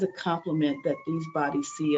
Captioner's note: siren